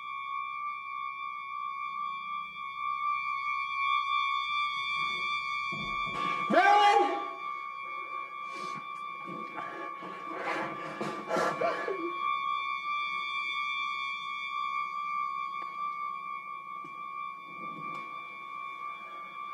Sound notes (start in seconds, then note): 11.8 panting; 11.8 whimpering